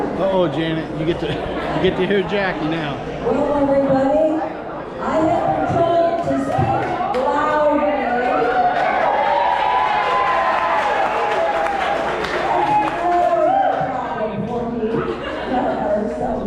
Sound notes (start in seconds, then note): 13.4 applause